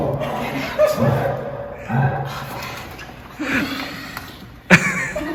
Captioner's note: laughs; panting